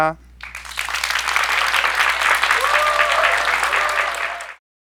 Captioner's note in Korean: 박수